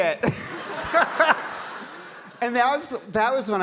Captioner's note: audience laughing